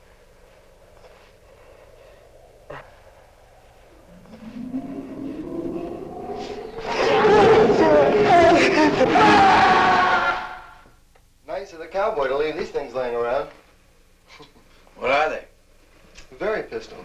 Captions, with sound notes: (creature growling) - Nice of the cowboy to leave these things laying around. - What are they? - They're pistols.